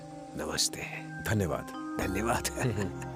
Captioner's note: speaking in foreign language